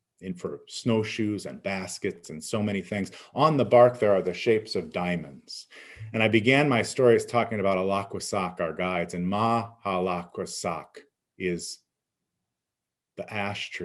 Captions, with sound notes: and for snowshoes and baskets and so many things. On the bark, there are the shapes of diamonds. And I began my story is talking about (speaking in Abenaki) our guides, and mahlakwsak is the ash tree.